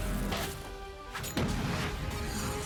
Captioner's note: explosion